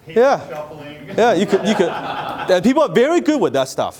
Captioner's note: audience laughing